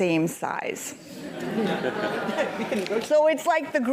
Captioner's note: laugh